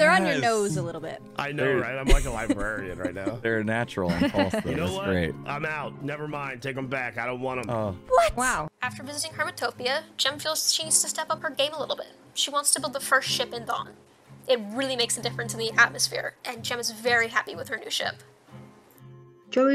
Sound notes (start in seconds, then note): 1.6 laughing